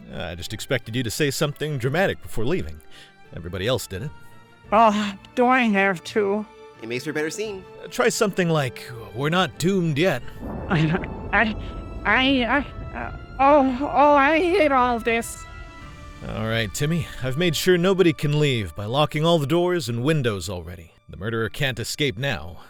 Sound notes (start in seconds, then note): 10.7 thunder rumbles; 12.4 stammering